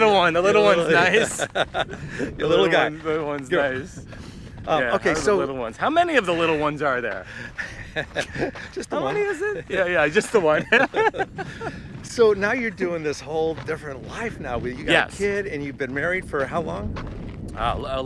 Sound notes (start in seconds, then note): 0.9 both laughing; 7.3 both laughing; 11.4 laughs